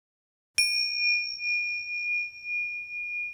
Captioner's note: soft ping